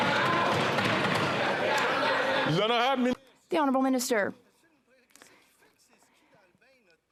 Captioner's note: applause